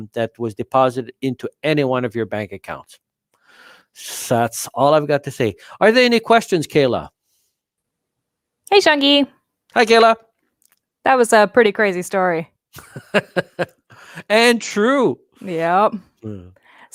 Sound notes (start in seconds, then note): 12.8 laughs